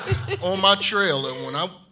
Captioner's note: laughs